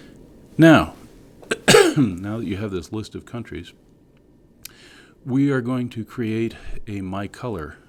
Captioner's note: cough